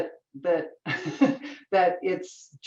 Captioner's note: chuckles